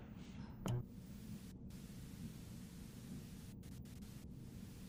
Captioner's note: TV buzzing